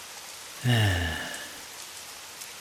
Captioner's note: sigh